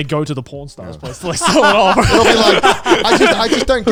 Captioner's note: laughing